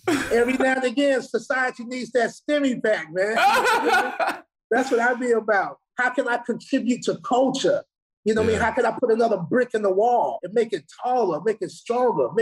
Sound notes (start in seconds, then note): 3.4 Iman laughing